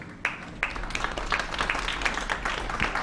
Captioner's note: applause